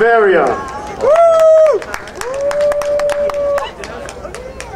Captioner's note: crowd applauding